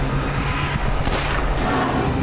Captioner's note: screaming; gun banging; tense music